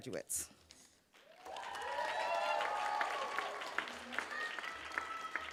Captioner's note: cheers, applause